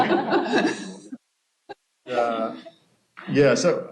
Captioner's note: laughter